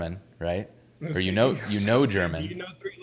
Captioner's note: laughs